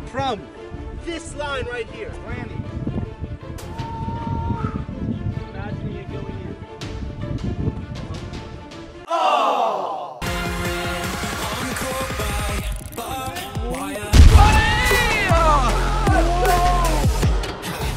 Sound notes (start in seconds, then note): 10.2 upbeat techno music; 14.3 cheers